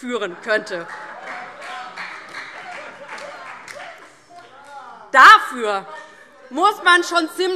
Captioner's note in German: Heiterkeit und Beifall DIE LINKE, vereinzelt CDU, BÜNDNIS 90/DIE GRÜNEN und SPD